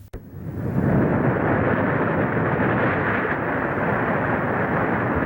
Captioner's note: waves crashing